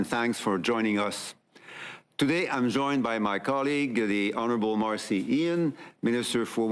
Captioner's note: speaking French